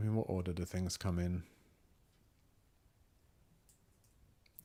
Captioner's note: silence